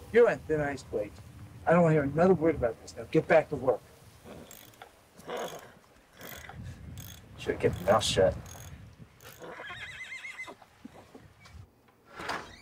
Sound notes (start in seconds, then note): 5.1 horses snorting; 9.2 horse whinnies; 12.0 door creaking